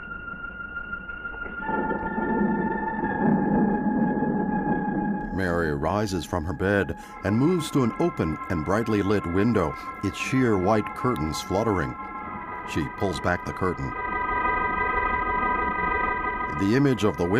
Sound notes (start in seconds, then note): 0.7 thunder rumbling